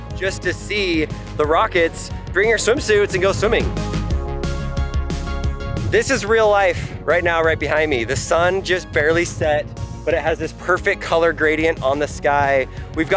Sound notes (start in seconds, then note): none